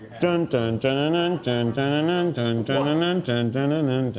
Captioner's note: humming